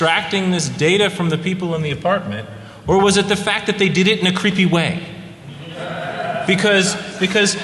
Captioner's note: off mic